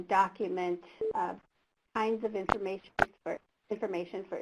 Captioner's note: beep